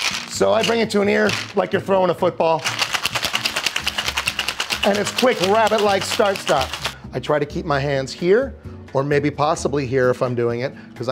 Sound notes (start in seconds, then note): 0.0 shaker tin banging; 2.6 ice cubes clinking; 3.0 cheerful music